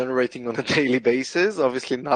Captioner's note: chuckles